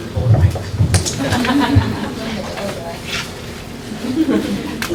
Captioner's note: laughter